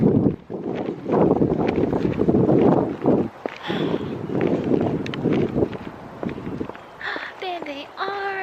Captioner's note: heels against pavement; wind; gasp